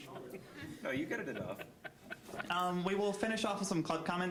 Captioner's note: scattered laughing